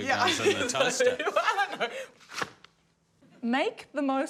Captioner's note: laughs